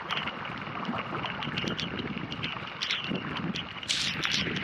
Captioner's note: rain